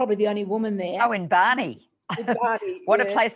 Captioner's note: laughs